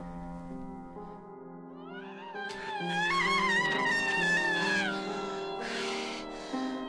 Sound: frustrated, painful screams

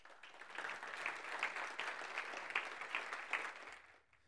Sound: audience claps

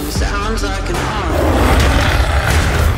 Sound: roars

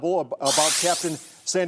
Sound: buzzer sounds

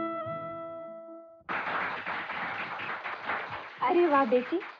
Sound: applauding

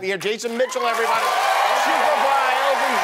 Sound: cheering

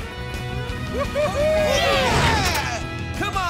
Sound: cheering

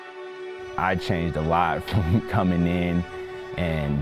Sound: chuckles

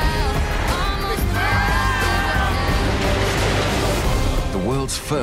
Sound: riders screaming

